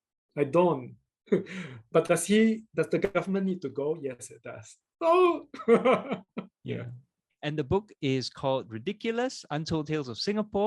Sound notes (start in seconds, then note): 5.6 laughs